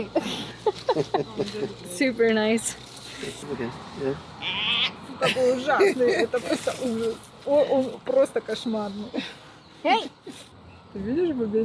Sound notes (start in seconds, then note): 0.0 giggling, laughing; 6.6 speaking foreign language